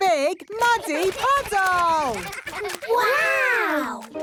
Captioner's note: splashing